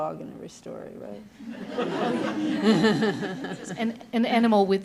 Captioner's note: laughter